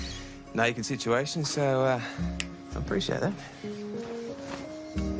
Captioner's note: snaps fingers